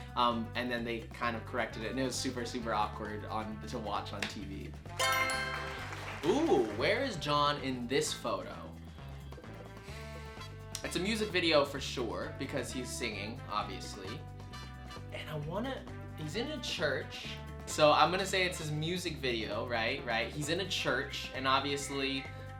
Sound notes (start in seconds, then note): 5.0 answer board chimes; 5.0 crowd claps